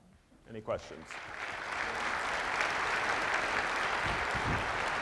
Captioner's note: applause